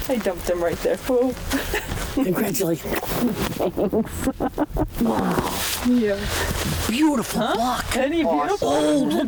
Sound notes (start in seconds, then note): 3.2 laughs